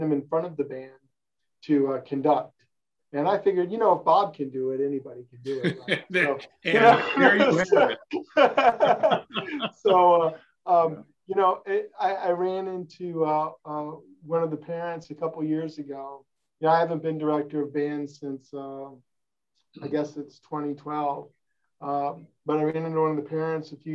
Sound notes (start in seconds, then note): 5.4 laughing